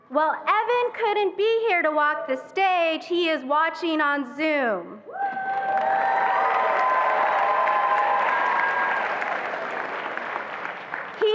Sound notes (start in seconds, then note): 5.2 attendees applauding and cheering